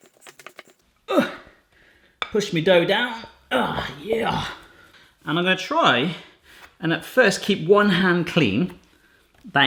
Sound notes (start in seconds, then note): 3.4 groaning